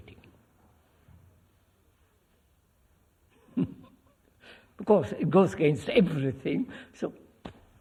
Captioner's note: laughs